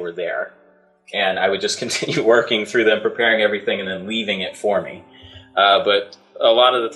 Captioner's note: through laughter